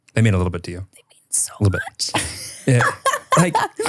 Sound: laughs

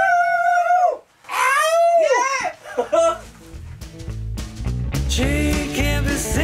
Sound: laughing

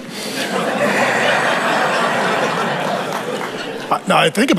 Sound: congregation laughing

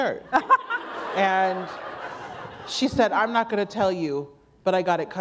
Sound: laughter

